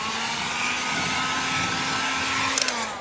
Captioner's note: föhn noises